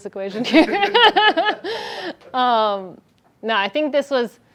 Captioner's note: laughter